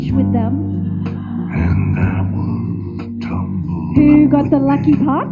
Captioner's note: audience laughs